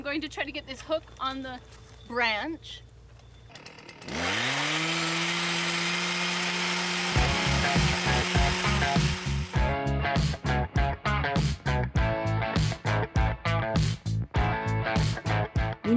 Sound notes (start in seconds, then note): 3.6 engine revs; 7.0 upbeat music